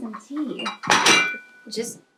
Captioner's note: tea Tray Clatters